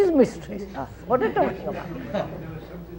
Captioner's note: laughter